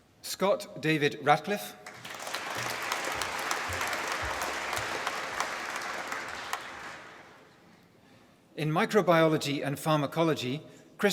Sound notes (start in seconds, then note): 1.8 applause